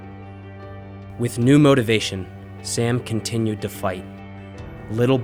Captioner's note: voiceover